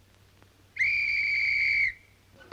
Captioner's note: whistle blows